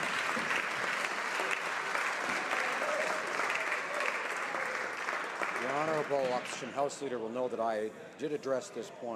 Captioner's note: some Applause